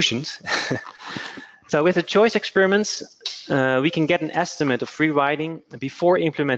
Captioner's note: laughter